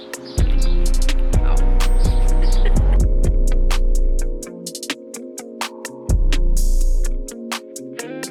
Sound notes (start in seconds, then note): 2.3 chuckling; 4.1 lively music